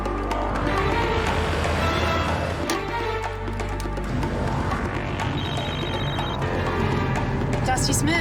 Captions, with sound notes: [ Cellphone rings ] Dusty Smith.